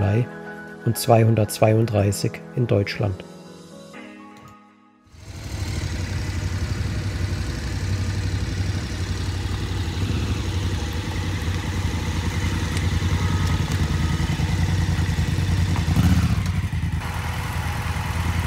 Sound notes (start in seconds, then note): 5.1 engine sound